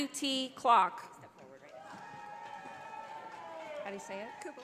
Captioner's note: audience applauding